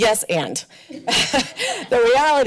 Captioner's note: laughs